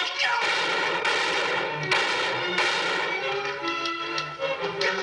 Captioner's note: gunshots